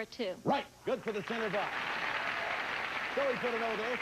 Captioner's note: audience applauding